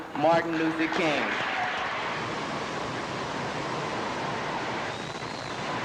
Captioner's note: audience on video applauds